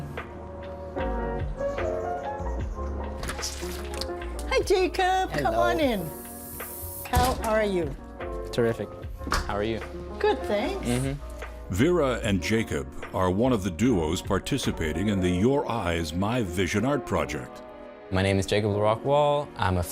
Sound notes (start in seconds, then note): 0.9 calm instrumental music; 7.1 door shuts